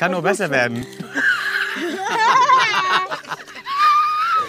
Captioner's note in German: Alle lachen laut